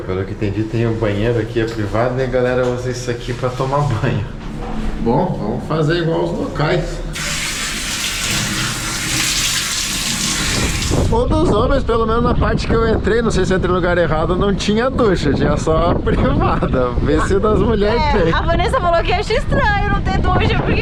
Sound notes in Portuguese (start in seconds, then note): 7.1 água corrente